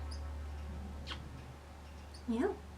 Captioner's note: kiss